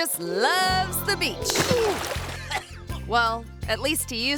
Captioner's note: water splashing